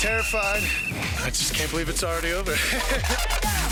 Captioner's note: laughs